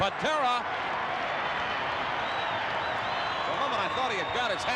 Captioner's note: crowd cheering